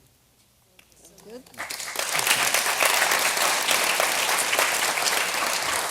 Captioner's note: applause